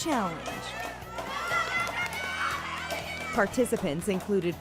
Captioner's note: cheering